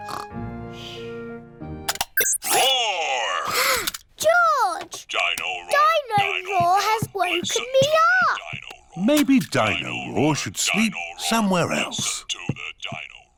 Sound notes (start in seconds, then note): 2.9 gasps